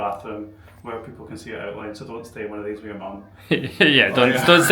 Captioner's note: laughs